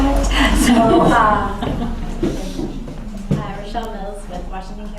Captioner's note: laughter